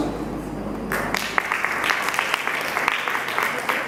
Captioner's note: clap